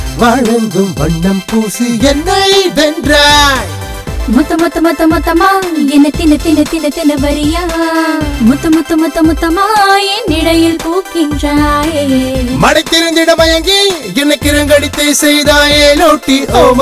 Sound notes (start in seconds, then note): none